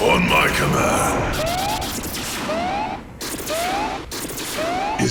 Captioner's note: alarm blaring